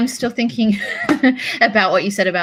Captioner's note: chuckles